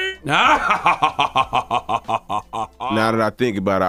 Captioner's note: Charlemagne laughing